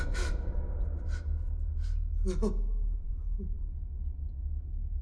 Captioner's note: sobs